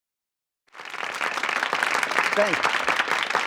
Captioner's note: crowd applause